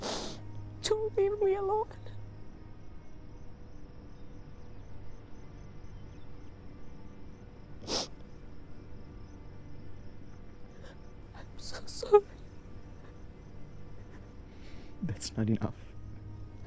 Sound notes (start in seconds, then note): 3.1 sobbing; 4.1 gentle solemn music